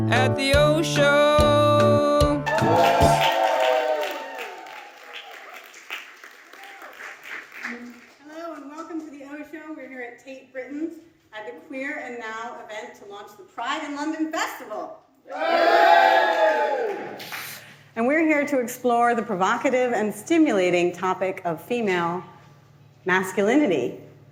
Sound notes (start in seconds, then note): 2.4 audience cheering and applauding; 15.3 audience cheers